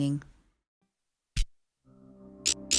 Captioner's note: electricity pulsing